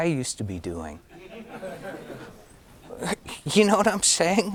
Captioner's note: audience laughing